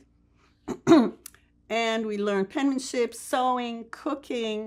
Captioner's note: clears throat